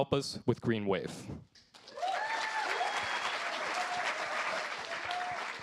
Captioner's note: cheers, applause